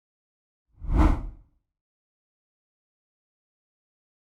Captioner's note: air whooshing